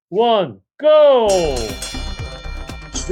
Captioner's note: bell ringing